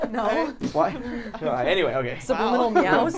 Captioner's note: laughs